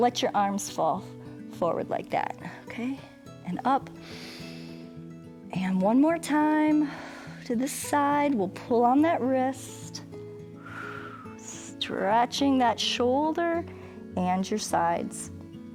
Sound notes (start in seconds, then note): 4.0 inhales; 10.5 exhales